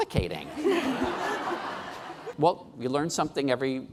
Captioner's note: laughing